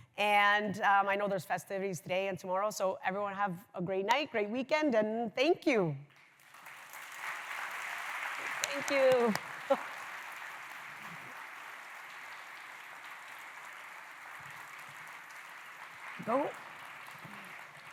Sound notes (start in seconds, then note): 6.1 applause; 10.3 applause